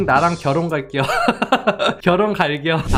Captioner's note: laughing